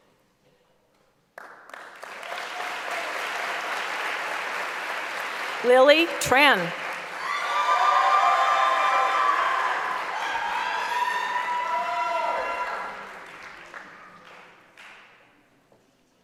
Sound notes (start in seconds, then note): 2.6 applause; 10.9 cheering